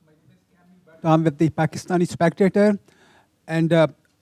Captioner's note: speaks faintly